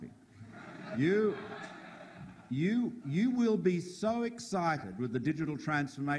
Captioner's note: audience laughing